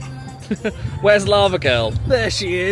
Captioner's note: laughs